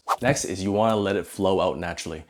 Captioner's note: air whooshing